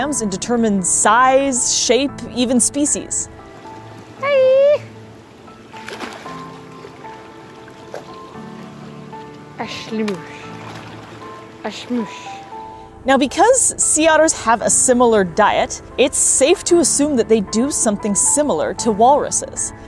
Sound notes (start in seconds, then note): 3.5 background music; 5.2 water splashing noise; 9.3 background music